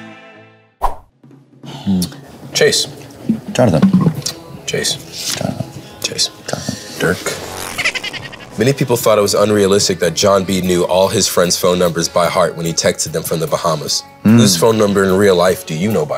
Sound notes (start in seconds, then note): 5.5 quietly; 6.6 whispers; 7.8 high-pitched laughter